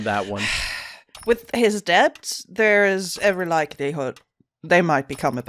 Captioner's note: sighs